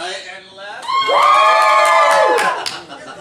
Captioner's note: audience screams